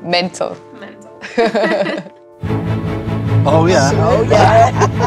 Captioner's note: laughing